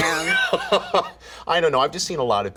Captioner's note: laughs